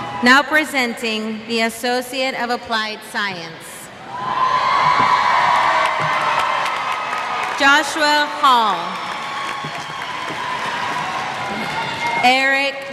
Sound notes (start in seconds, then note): 3.5 applause; 8.5 cheers